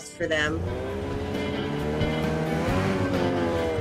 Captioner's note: engine roaring